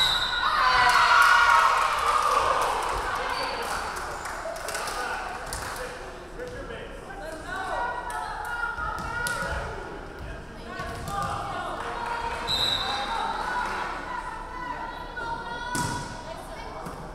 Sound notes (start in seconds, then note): 0.0 referee whistling; 0.3 crowd cheering; 12.4 referee whistling